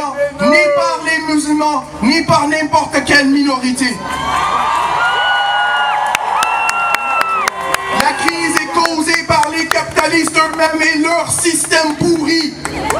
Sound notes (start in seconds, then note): 5.8 applause